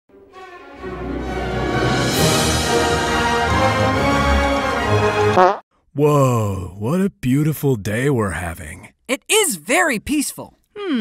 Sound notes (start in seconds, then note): 0.1 orchestra music; 5.3 quick fart